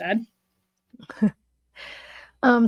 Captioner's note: chuckles